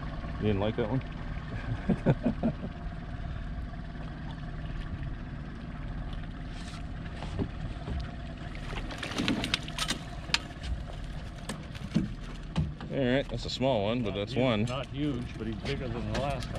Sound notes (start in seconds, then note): 3.2 chuckling; 4.9 fish splashing; 10.3 tackle clanking